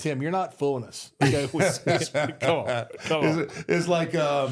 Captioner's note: group laughing